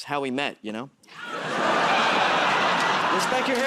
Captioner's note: laughter